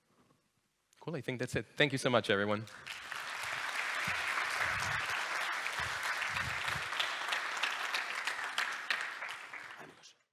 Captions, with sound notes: Cool, I think that’s it. Thank you so much, everyone. [applause]